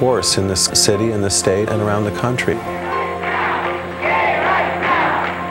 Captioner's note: crowd